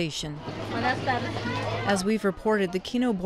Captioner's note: woman speaks in foreign language